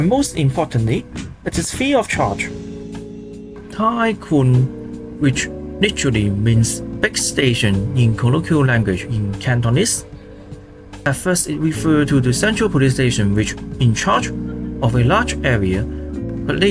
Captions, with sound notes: and most importantly, it is fee of charge Tai Kwun, which literally means big station in colloquial language (Cantonese) At first, it refers to police station which in charge of a large area